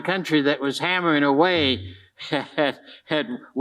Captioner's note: chuckles